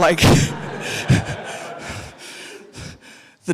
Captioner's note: audience laughing; chuckles